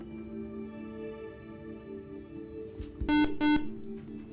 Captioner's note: buzzer